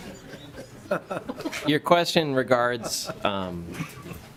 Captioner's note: coughing; laughing